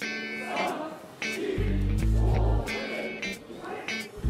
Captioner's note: crowd shouts loudly